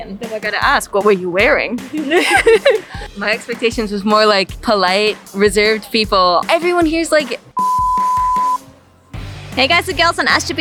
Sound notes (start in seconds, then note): 1.8 laughter; 7.5 beep